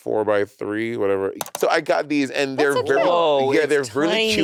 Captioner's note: mouse clicking